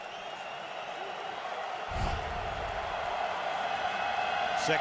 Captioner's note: cheering